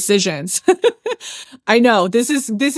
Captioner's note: laughs